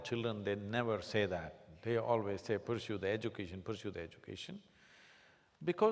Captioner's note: none